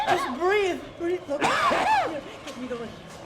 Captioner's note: coughing